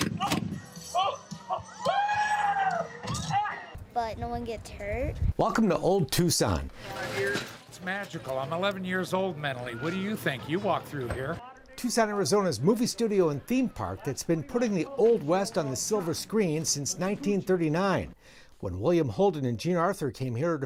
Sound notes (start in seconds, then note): 0.1 blasts; 1.4 yelling